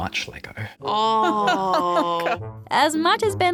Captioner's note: laughs